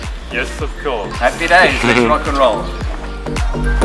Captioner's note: chuckles